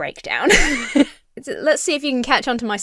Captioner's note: laughs